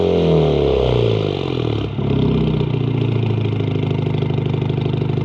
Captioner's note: car engine idling